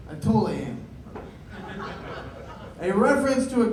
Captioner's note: laughter